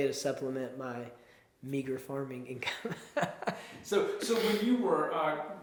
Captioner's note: chuckles